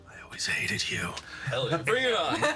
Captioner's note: laughing